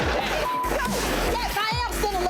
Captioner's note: beep